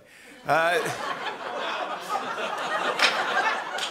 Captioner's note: laughter and grumbling; isolated clapping